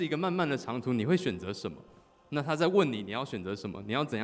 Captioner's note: none